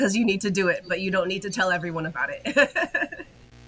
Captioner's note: laughs